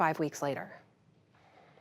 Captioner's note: audio gap